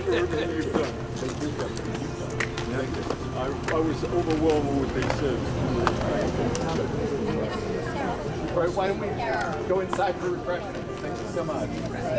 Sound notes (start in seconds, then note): 6.0 people chattering